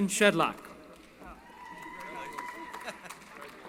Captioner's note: cheering